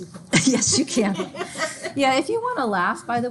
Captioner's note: laughing